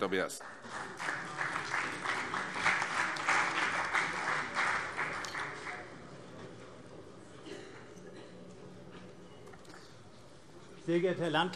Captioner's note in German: Beifall CDU und vereinzelt BÜNDNIS 90/DIE GRÜNEN